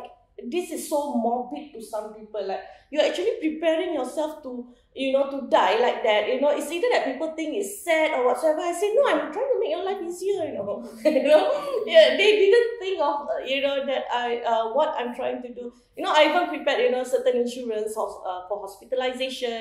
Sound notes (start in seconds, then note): 11.1 laughs